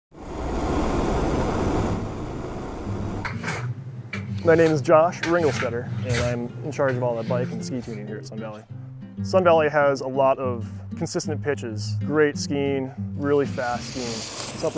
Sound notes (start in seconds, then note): 0.2 torch hissing; 4.2 tool scraping